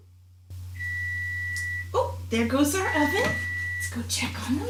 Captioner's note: beeping